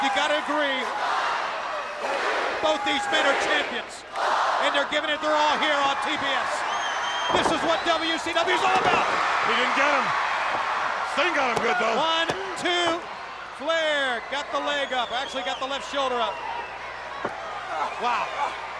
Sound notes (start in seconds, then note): 8.4 Ric thudding on ring; 11.3 countdown thudding